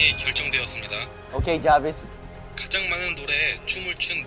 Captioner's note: heart beating